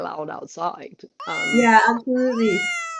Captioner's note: cat miaowing